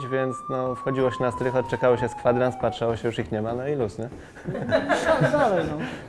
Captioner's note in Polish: śmiech